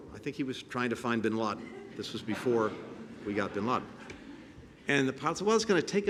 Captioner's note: laughter